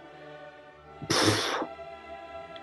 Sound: exhales

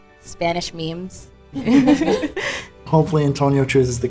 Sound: all laugh

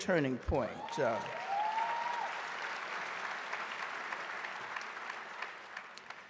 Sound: audience cheering and applauding

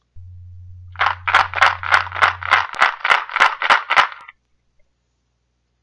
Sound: shaking sound

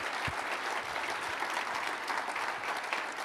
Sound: applause

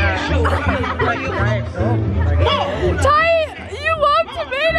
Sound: laughing

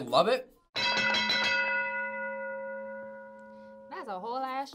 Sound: bell rings

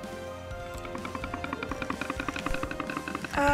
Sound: timer rattling

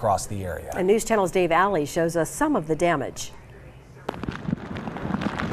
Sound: hard rain falling

